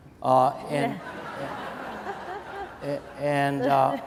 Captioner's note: laughing